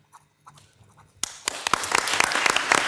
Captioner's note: pen scratching; all applauding